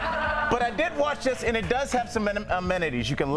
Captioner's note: laughter